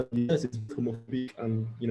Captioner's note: audio distorting